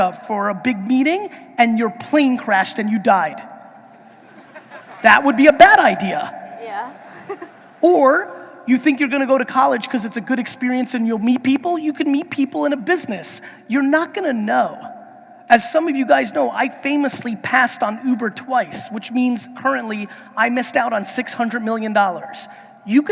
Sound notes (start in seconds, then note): 3.9 audience laughing